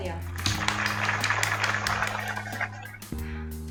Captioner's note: applause